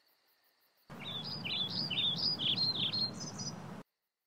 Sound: birds chirping

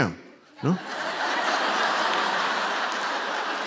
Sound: laughter

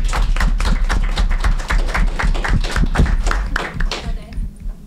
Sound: group applauds

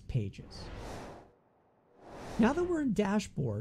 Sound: whooshing

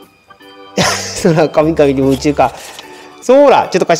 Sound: laughs

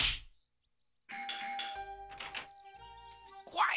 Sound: doorbell rings; whispering

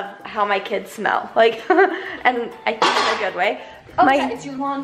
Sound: chuckles

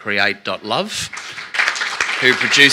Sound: applause

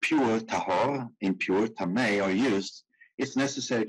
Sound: speaking in foreign language

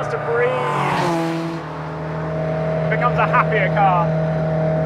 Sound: car engine revving

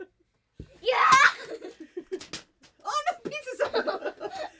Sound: laughs; yells

